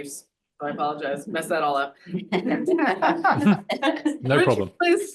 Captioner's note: audience laughs